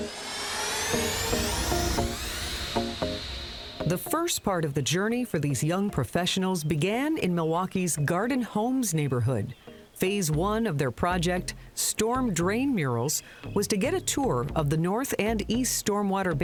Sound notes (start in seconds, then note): 2.0 whooshing